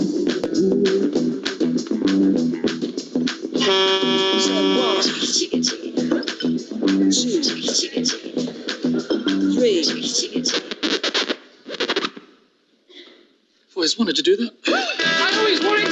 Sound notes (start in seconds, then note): 0.1 upbeat music; 3.6 truck honking; 4.5 upbeat music; 10.8 music scratch